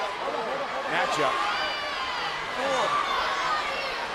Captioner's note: crowd yelling